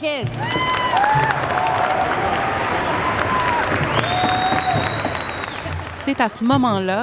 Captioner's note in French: applaudissements